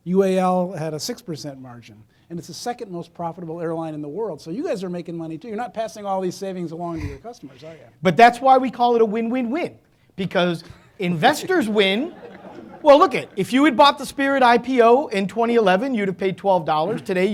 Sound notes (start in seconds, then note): 10.6 audience laughing